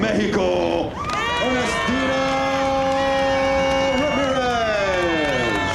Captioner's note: applause